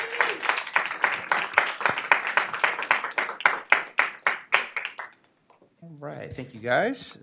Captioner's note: applause